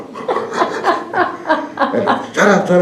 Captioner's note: laughs